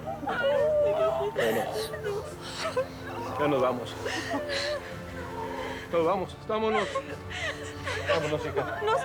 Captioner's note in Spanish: Sollozos